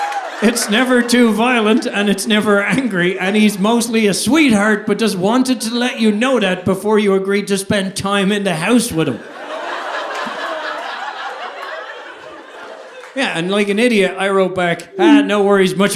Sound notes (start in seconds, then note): 0.0 audience laughing; 9.0 audience laughing